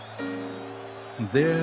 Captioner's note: crowd cheering